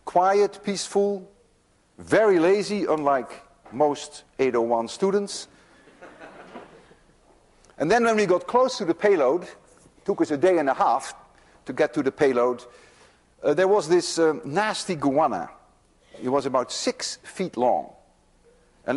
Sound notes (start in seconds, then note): 5.8 students laugh